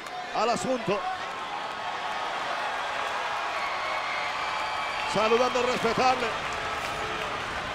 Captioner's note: applause